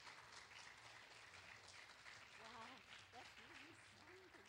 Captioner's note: clapping